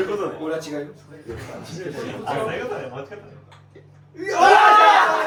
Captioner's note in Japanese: 笑い